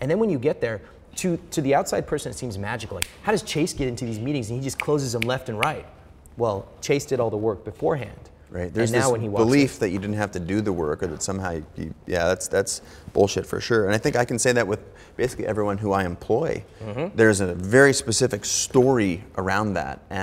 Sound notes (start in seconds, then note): 3.0 snapping; 3.0 snapping fingers